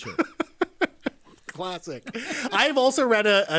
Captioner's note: laughing